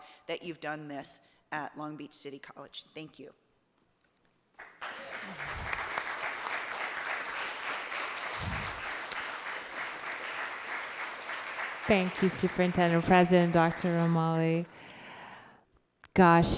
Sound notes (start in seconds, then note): 4.9 audience applauds